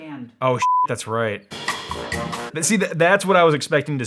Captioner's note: beep